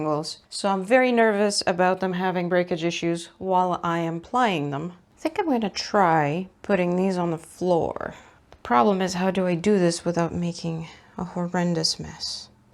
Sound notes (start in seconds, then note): none